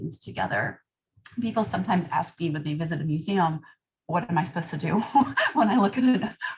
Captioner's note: laughter